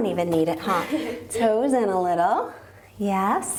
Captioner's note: laughing